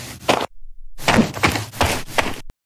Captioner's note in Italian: FX - Footsteps - On Multiple Dirt - Walk; FX - Whoosh - 03; FX - Footsteps - On Multiple Dirt - Run